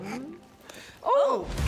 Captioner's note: chokes